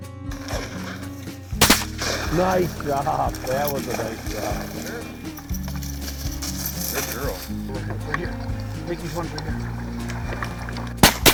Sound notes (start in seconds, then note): 1.5 gun fires